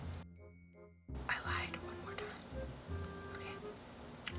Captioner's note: whispers